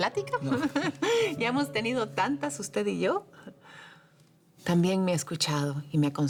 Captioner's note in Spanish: Risas